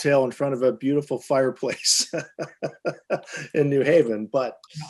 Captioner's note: laughs